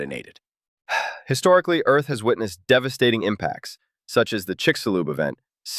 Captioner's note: sighs